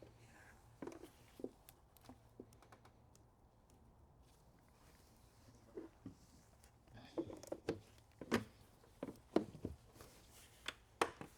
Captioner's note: silence